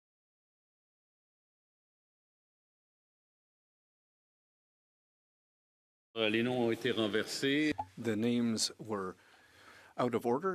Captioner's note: speaking French